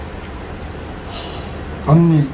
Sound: sigh

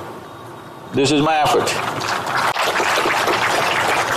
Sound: applause

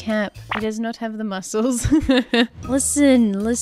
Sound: laughs

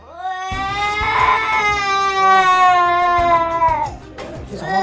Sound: mommy is gone and cries out loud

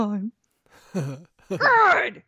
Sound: giggles idiotically

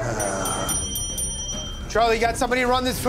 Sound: dinging

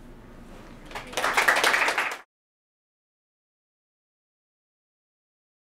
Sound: audience applauds

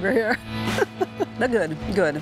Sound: laughs

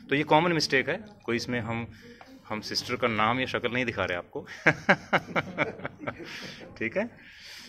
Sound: laughs

